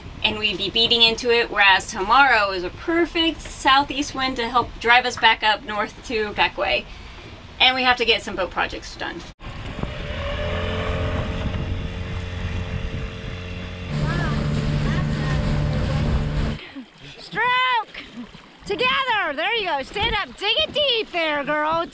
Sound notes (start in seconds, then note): 11.3 dinghy motor running; 11.3 wind blowing